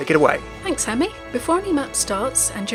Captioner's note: voiceover